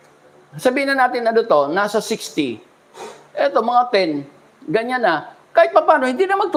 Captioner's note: sighs